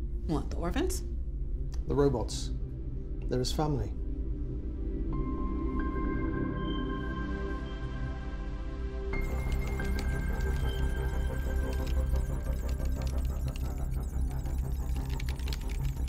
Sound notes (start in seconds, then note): 5.0 soft dramatic music; 9.2 computer trilling; 9.2 keyboard clattering; 10.6 ominous music